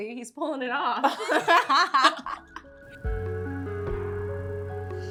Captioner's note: Becca and Zoey laughing; soft music